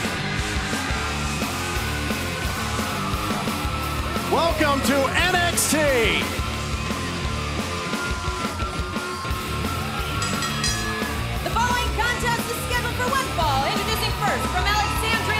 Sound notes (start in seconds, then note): 2.3 cheers and applause; 10.1 bell ringing